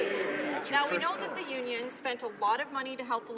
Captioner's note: some Applause